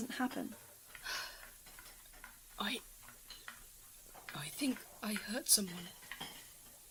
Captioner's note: sighs